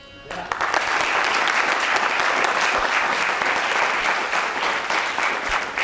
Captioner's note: applause